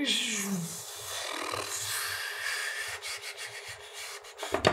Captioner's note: groan of ayyyyyyyyyyyyyyyyyyyyye; pffffffffffffflbt; musical air exhalation through lips